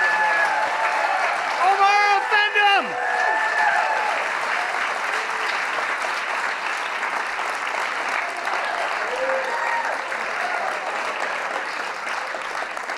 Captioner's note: applause; applause